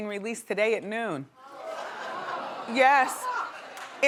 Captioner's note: audience sighs